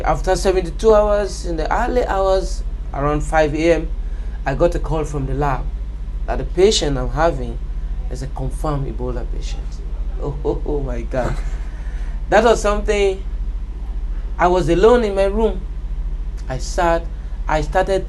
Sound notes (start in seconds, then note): 11.2 laughter